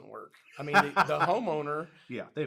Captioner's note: laughs